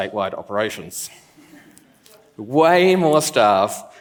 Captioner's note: laughs